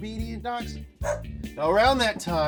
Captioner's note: dog barks